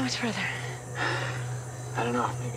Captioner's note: sighs